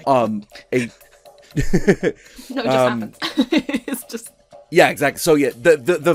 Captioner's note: laughing; laughs